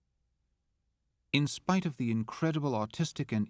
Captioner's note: voiceover